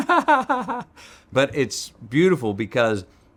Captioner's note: Matthew laughs